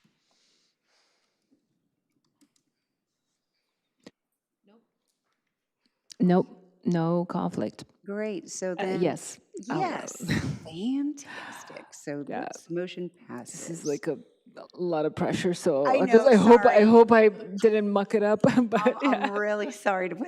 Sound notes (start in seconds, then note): 9.9 laughs